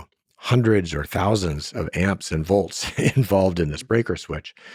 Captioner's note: laughing